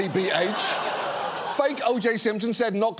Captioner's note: audience laughing